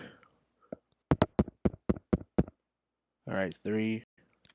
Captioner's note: mic tap